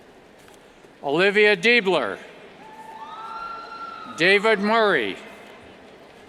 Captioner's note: cheers